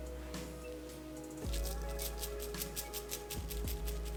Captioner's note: sound of flour, sugar, and salt hitting the aluminum foil